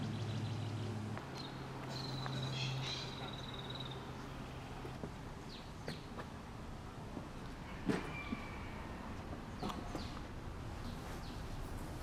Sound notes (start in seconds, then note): 3.4 birds chirping